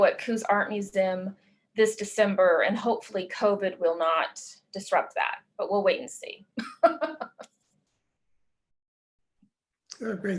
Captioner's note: laughs